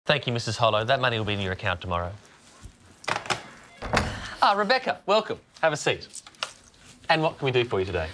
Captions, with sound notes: Thank you, Mrs Harlow. That money will be in your account tomorrow. (DOOR OPENS) Ah, Rebecca. Welcome. Have a seat. And what can we do for you today?